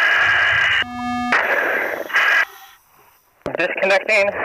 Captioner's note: beeping